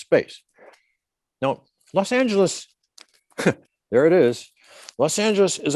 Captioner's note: snickers